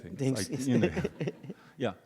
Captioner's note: audience laughs